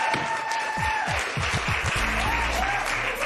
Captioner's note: cheers and applause